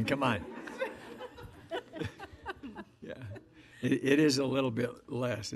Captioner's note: audience laughing